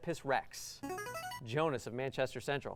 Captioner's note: buzzer